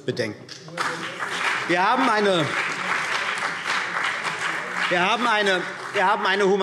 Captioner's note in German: Beifall CDU und BÜNDNIS 90/DIE GRÜNEN